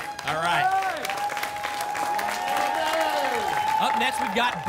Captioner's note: applause and cheering